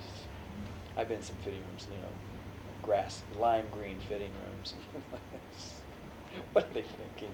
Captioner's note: laughs